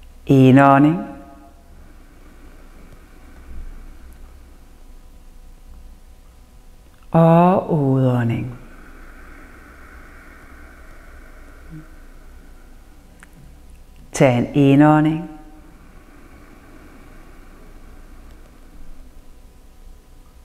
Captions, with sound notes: Inhale (inhales) And exhale (exhales) Inhale (inhales)